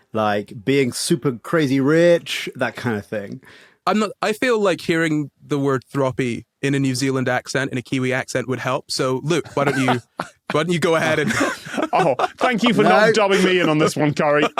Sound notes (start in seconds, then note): 9.4 laugh